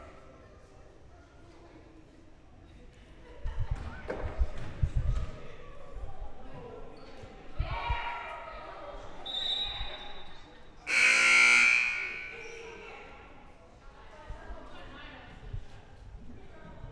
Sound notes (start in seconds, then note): 10.8 loud buzzer blaring; 10.8 whistle blowing